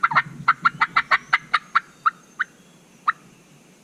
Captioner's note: turkey call